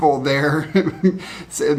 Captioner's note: laughs